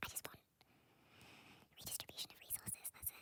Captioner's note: deep breath